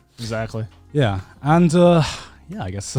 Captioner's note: sighs